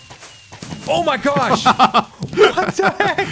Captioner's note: rapid fireworks; laughs